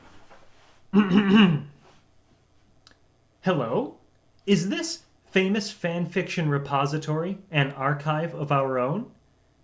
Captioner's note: clears throat